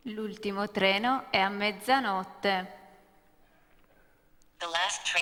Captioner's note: speaking italian